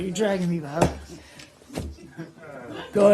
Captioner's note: laughter